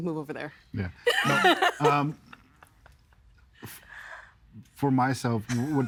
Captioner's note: laughing